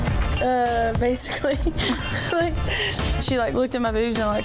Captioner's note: laughs